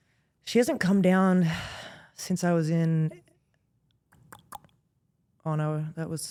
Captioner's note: clicks tongue